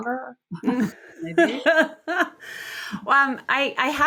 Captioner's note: laughs